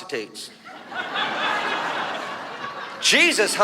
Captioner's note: audience laughs